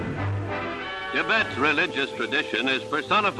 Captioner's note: voiceover